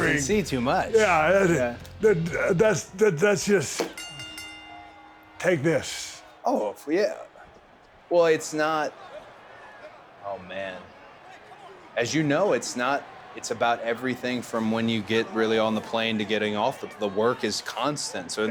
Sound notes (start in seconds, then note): 3.1 bell rings; 9.8 audience chattering